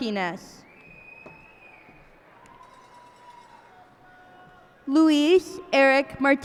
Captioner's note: cheers and applause